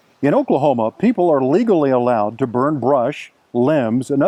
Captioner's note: none